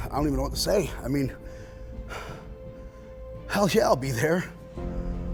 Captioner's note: breathes